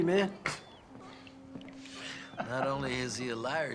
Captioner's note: chuckling